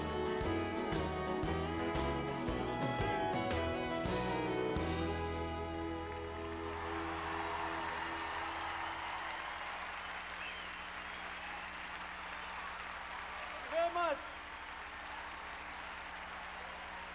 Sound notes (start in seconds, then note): 6.9 crowd cheering